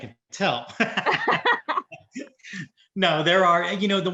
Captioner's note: laughing